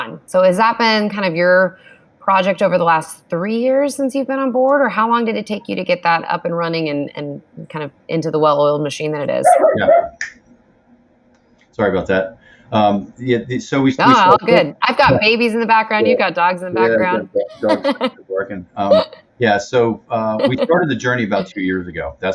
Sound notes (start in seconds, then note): 9.4 dog barking; 18.5 laughs